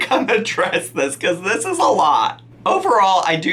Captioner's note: laughing